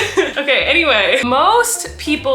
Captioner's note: laughing